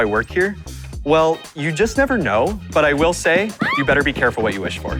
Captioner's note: girl screaming